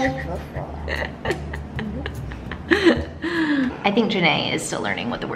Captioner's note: laughing